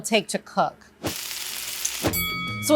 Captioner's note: pan sizzling; bell rings